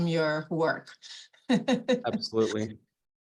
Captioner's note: laughing